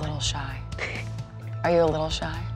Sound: chuckles

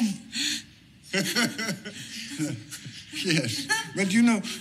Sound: Rodolfo laughs

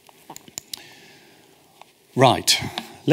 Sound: clicks

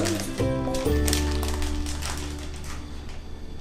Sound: voiceover

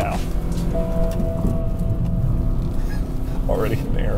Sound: engine revving

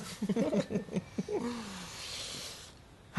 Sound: laughter

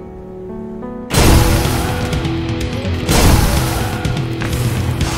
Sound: explosion

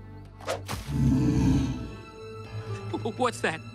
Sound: growling

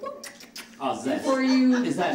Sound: kissing

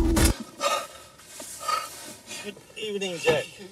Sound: heavy breathing

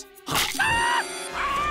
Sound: screaming

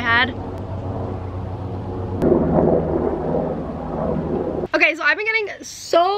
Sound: propeller blades whirring

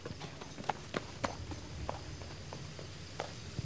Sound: footsteps running

